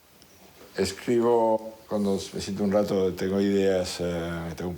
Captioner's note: speaking foreign language